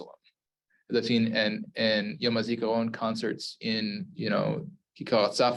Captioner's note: Hebrew